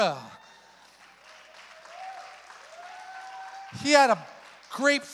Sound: congregation applauds

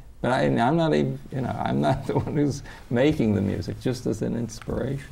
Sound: laughs

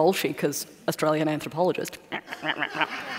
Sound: makes ruh, ruh, ruh sound

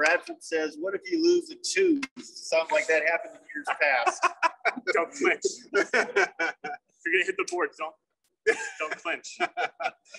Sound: laugh

